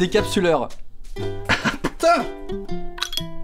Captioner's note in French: rire